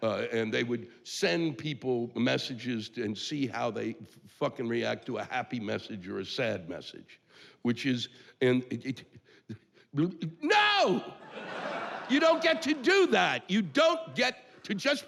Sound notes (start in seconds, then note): 10.5 yelling